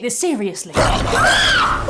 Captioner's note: monster noise